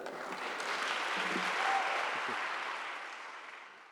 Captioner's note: audience applauds